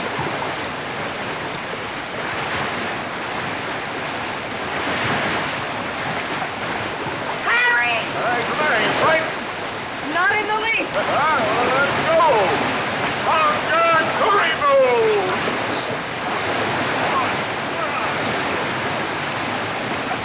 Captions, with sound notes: Harry! What's the matter? You frightened? Not in the least. [ Laughs ] Well, let's go! [ Shouting In African Language ] Come on. Come on!